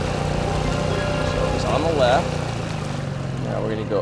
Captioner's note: engine revs